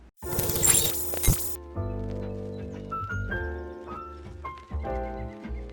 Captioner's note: digital sounds; light music